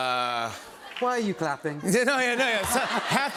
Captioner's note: laughter